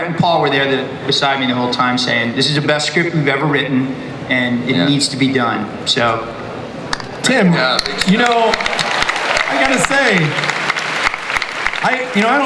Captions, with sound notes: Rhett and Paul were there beside me the whole time saying this is the best script we've ever written, and it needs to be done. - Tim, you know... (audience applauds)